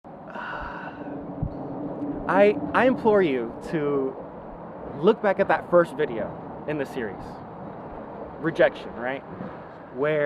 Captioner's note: sigh